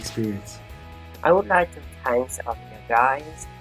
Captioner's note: speaks faintly